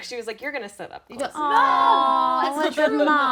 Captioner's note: group exclaiming